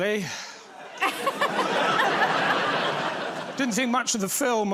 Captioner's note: laughter